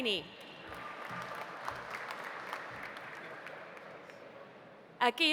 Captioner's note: audience applauding